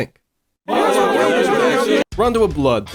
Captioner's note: loud cheering